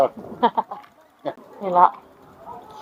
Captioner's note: laughs